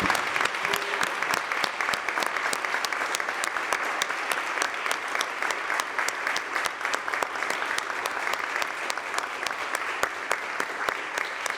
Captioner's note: applause